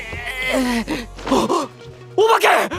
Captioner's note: gasps